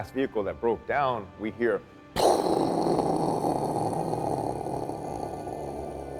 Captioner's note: imitates rumbling